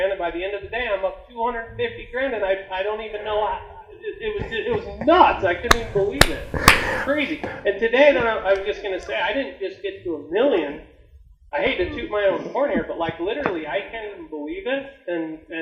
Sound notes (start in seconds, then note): 3.5 stammering; 4.1 host laughing; 6.6 host clapping